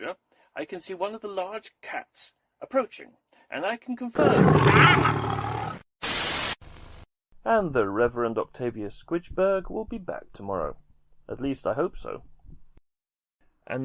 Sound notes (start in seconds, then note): 4.2 roar; 6.0 Static